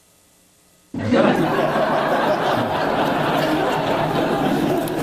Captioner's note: audience laughs